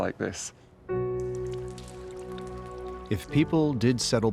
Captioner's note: raindrops pattering